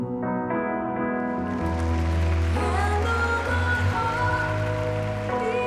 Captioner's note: applause